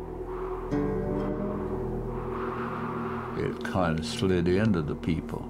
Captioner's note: blowing winds